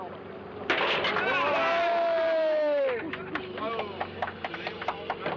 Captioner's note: all cheering